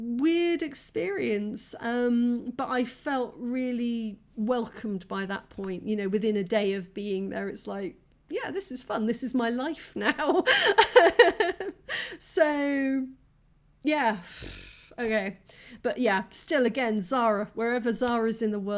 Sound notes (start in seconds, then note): 10.4 laughing